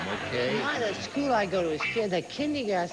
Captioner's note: mumbling